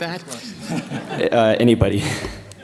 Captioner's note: laughter